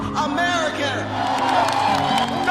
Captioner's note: applause